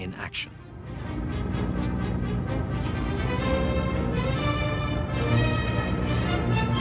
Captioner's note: engines rumbling; dramatic symphonic music